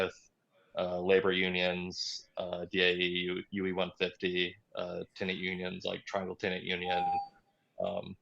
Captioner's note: beep